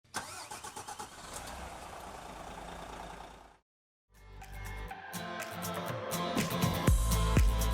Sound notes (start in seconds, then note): 0.0 car engine starting; 4.2 upbeat music